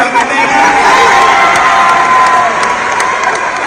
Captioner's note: applause